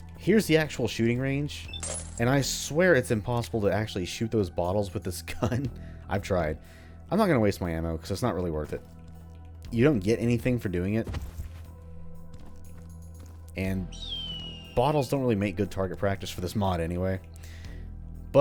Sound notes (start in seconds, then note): 5.4 chuckles; 13.9 hawk screeches